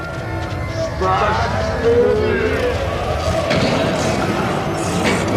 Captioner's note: distorted voices echoing